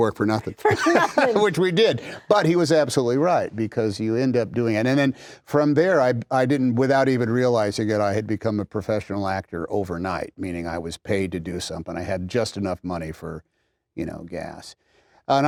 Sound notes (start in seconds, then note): 0.4 laughter